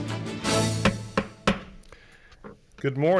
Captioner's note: gavel bangs